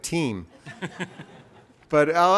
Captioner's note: laughs